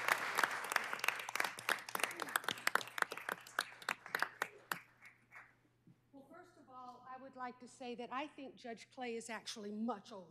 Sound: applause

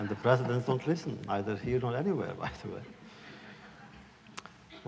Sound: laughter

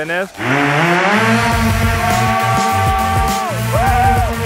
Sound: hoverboard buzzing

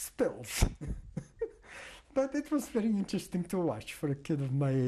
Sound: laughs

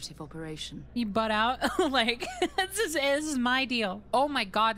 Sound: laughter

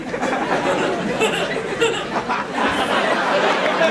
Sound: evil laugh

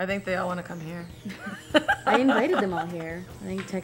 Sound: laughs

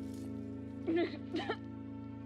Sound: crying, coughing

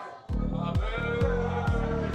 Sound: boos

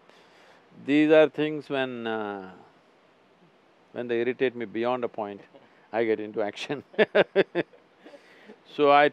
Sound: laughs

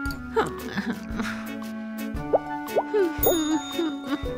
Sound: sighs

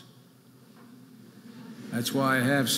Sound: audience laughing

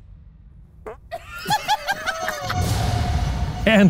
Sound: farts; both laughing; dramatic music

